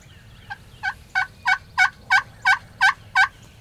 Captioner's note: turkey call